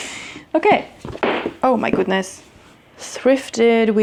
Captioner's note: books fall